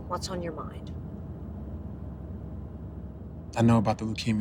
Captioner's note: car engine revving